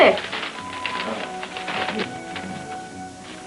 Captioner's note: paper rustling